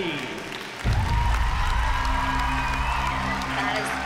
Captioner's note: cheering